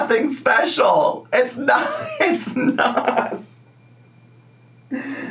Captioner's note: laughing